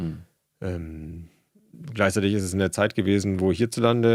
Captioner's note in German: räuspern